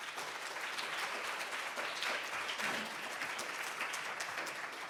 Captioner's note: audience applauds